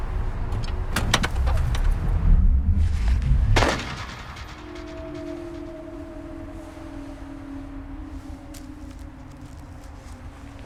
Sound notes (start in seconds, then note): 2.9 crack